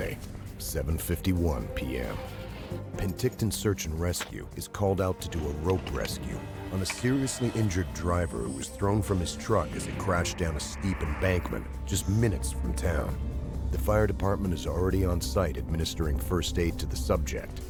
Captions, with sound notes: And later, rescue on ice. - Kick with your legs! Come on, work with me. - [Voiceover] Sunday, 7:51pm. Penticton Search and Rescue is called out to do